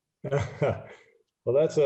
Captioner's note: chuckles